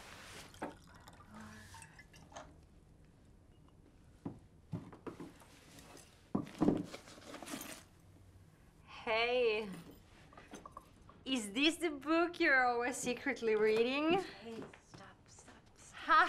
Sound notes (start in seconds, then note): 0.0 water pouring